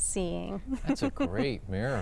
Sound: laughter

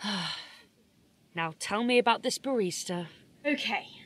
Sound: sighs

